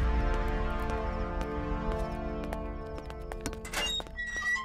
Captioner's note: Footsteps; Gate opening